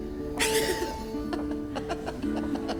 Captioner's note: laughs